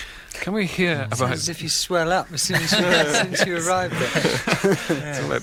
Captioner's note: laughter